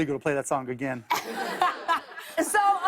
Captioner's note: laughter